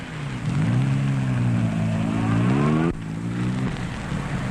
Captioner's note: engines rumbling